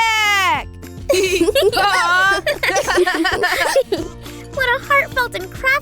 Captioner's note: laughter